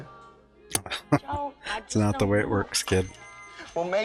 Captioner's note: chuckling